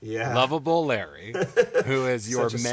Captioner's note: giggling